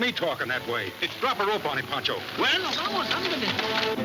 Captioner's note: speaking Spanish; exciting orchestra music